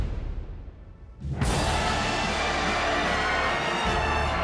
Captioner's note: huge applause